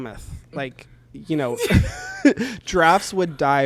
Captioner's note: both laugh